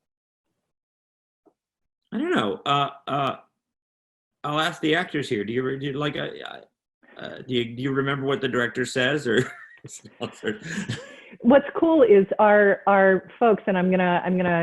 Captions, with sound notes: I don't know. I'll ask the actors here, do you remember what the director says? (laughing) - What's cool is our folks, and I'm gonna,